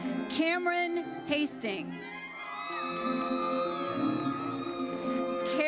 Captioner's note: audience cheers